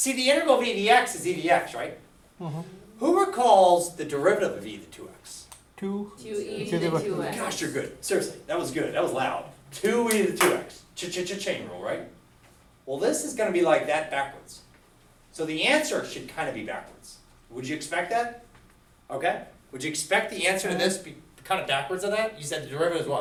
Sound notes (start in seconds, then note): 6.1 voiceover